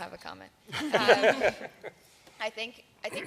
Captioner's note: laughter